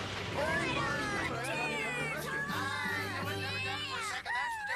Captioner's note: cheering and excited chatter